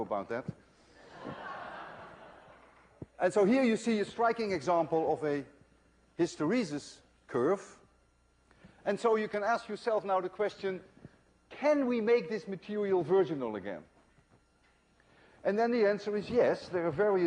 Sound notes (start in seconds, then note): 1.0 laughter